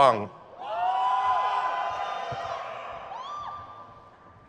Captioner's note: crowd cheers